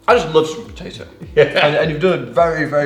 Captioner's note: chuckles